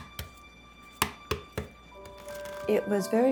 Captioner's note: egg shell cracking on counter